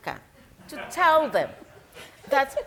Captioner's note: audience members laughing